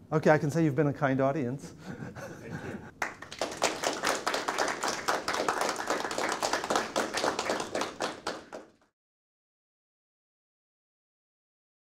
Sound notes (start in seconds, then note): 3.0 applause